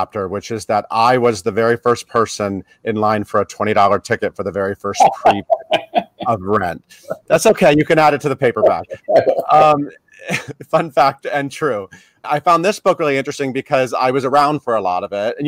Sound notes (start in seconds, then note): 6.5 laughing; 10.2 chuckles